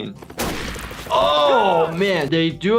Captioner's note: gun fire